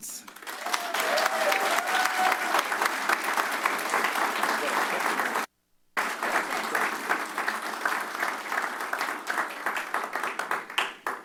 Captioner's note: applause